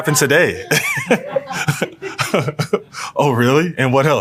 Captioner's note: laugh